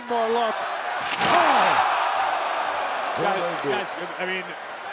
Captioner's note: applause